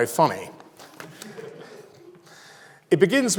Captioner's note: audience laughs